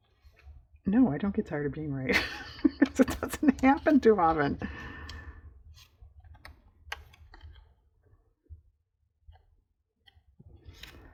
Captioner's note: laughs